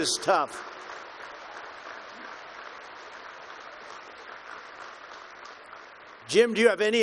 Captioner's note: applause